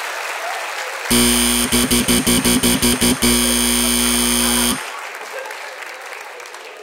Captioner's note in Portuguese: campainha e aplausos